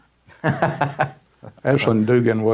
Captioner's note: laughs